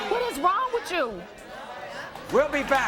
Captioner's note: audience chatters